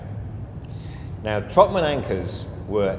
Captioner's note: inhales audibly